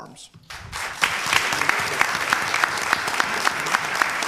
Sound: applause

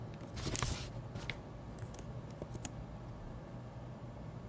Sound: paper ripping

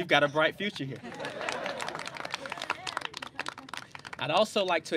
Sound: clapping

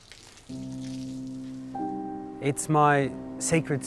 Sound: water splattering; gentle piano music

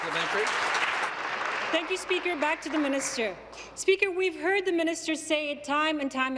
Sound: applause

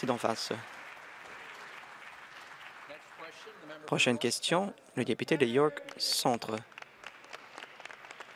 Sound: applause

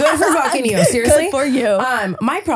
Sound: laughing

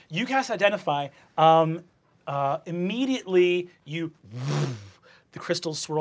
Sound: whooshes

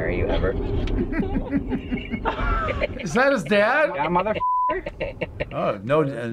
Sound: chuckles

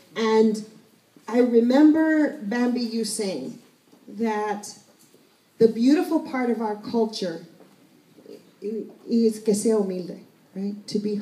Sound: spanish

